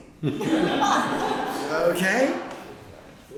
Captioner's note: laughter